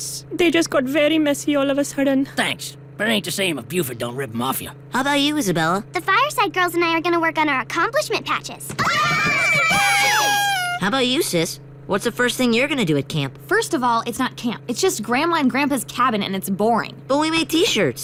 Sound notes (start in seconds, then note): 8.8 all cheering; 9.6 whistle toots